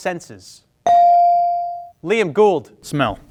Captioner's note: bell ring